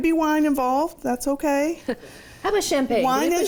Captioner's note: chuckles